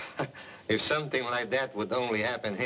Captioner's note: tomaso chuckling